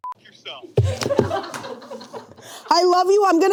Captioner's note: beep; crew laughing